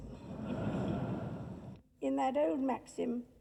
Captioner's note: audience laughs